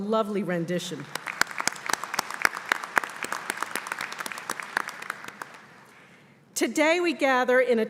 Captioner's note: applause